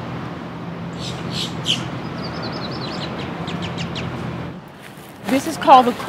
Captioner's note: bird calls